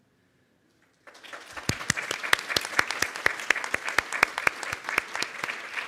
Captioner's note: audience clapping